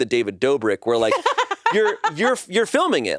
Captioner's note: laughs